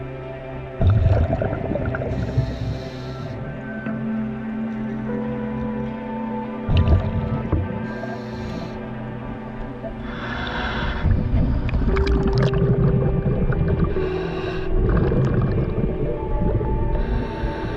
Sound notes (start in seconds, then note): 1.0 underwater sounds continue; 10.0 breathing; 13.3 underwater sounds continue